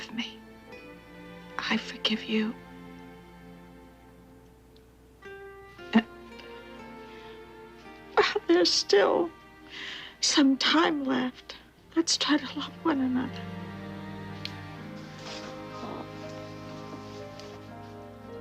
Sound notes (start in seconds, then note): 5.4 tearfully; 13.7 sentimental music